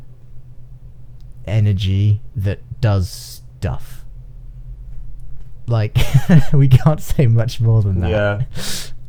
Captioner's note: laughing